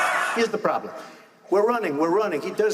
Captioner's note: laughing